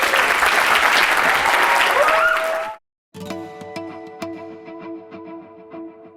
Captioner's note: applause